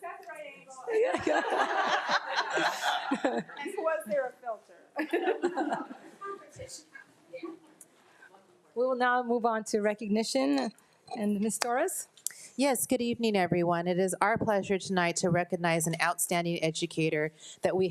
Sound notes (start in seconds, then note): 0.9 group laughing; 4.9 group chattering; 5.0 laughing